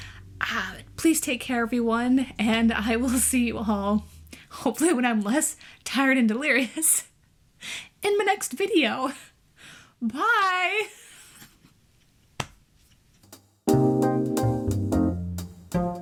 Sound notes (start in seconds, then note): 10.6 tired laughter; 13.6 jazzy outro music